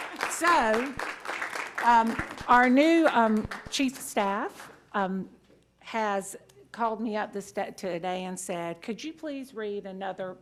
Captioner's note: cheers and applause